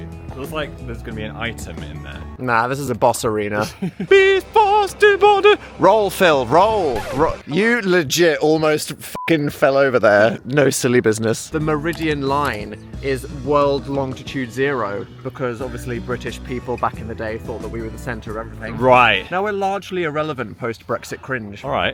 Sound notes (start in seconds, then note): 5.8 audio squealing; 9.1 beep